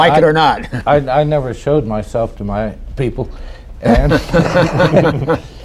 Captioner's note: laughter